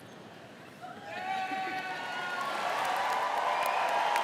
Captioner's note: crowd cheering